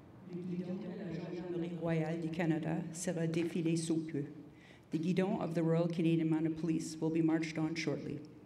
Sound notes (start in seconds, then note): 0.9 message in French